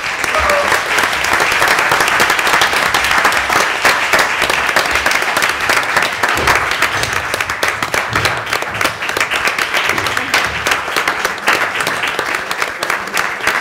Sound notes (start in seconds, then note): 6.1 applause